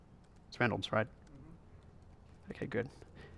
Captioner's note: voiceover